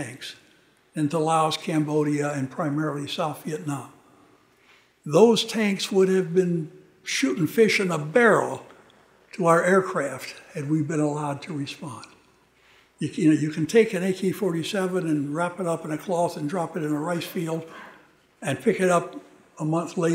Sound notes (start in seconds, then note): none